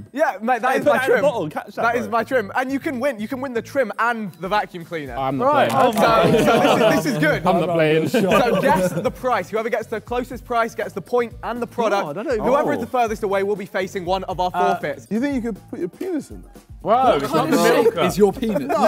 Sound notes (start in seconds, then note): 5.7 laughs; 9.0 Sidemen laugh